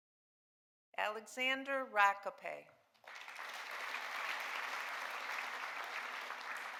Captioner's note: audience applauding